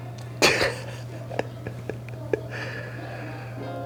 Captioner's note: laughs